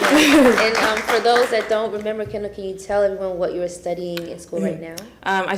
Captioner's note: applause